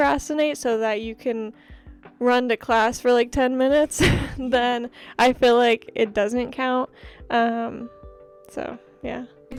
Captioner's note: laughter